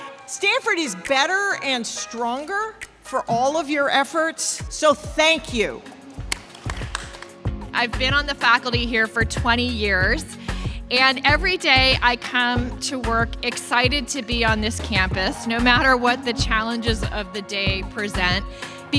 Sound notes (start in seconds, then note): 6.1 crowd claps